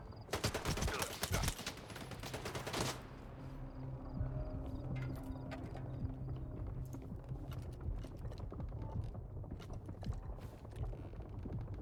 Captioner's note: gunfire